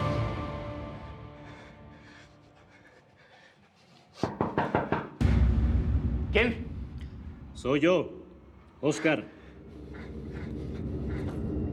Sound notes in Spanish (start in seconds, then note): 4.2 toques en la puerta